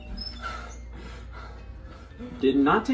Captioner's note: door squeaks; panting